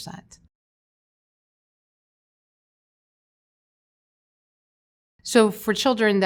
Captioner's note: silence